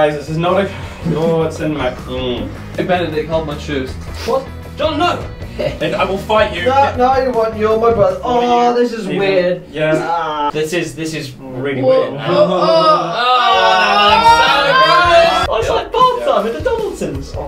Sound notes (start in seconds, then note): 7.9 music fades out; 12.0 all groaning